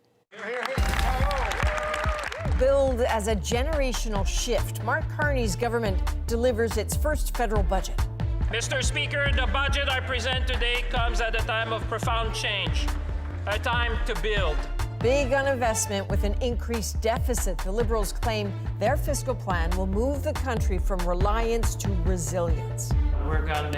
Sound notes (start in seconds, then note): 11.7 applause